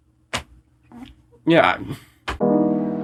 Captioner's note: slap